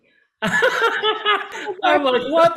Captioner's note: little laughs